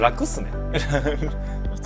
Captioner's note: laughs